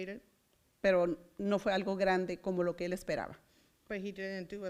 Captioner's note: foreign language